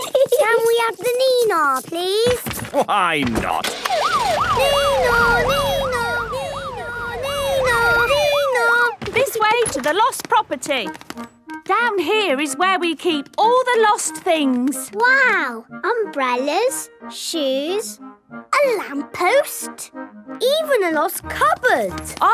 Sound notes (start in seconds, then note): 3.7 siren sounding